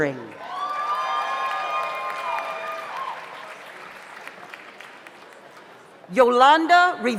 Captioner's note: audience applauds; audience cheers